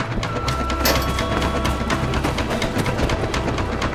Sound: clattering

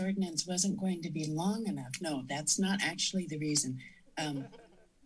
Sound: chuckles

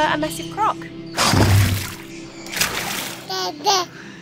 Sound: crocodile grunts and splashes

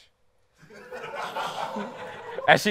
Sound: laughter

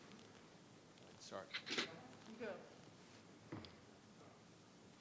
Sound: audience chattering

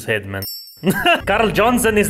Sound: chuckles

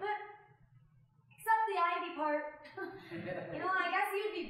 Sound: chuckling

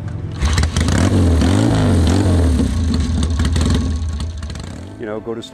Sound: motorcycle engine starting

